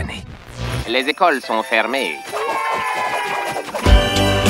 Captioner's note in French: cris de joie